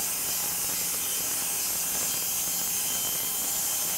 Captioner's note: machine sawing